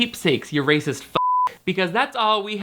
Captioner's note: beep